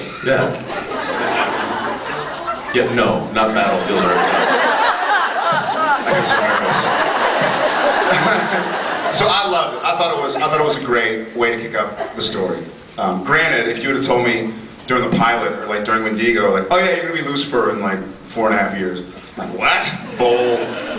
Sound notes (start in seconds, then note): 0.3 scattered laughs; 3.6 laughs; 5.3 mic thumps; 7.0 laughs; 7.2 mic thumps; 20.2 scattered laughs